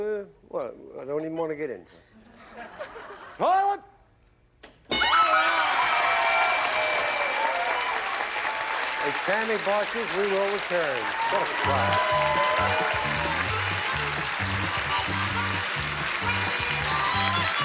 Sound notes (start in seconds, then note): 1.9 laughter; 4.9 dinging; 5.8 cheering; 11.8 applause, theme music